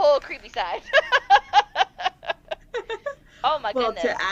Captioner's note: laughter